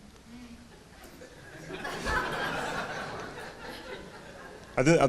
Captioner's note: audience laughing